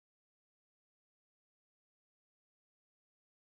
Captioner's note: none